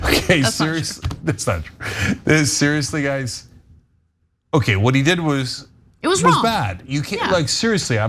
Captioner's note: laugh